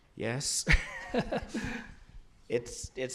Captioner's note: laughter